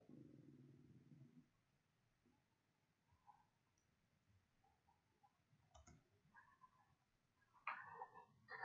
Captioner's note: silence